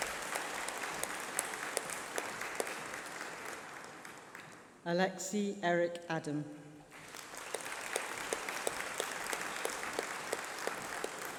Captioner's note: applause